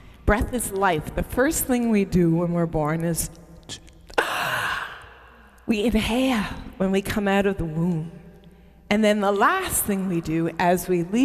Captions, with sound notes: Breath is life. The first thing we do when we're born is [gasps] we inhale when we come out of womb. And then the last thing we do as we leave